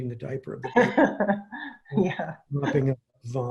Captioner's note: laughs